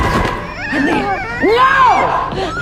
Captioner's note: shouting